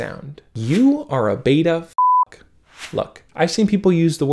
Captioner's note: beep